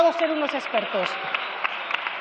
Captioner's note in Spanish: Aplausos